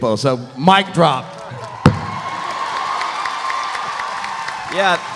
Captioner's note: audience cheering; audience applauding